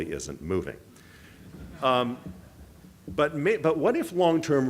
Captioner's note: audience chuckle